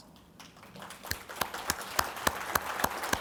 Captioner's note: clapping